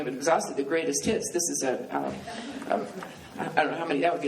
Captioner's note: laughing